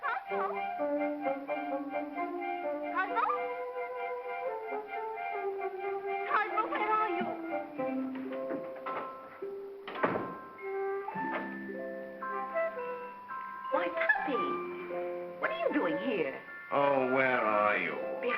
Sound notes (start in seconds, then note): 7.4 whimsical music; 9.8 door closes; 11.6 whimsical music